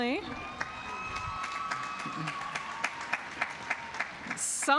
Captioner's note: applause